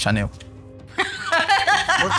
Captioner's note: laughs